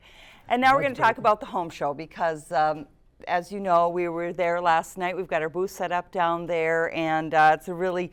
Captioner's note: laughter